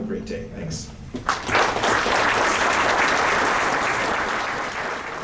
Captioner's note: applause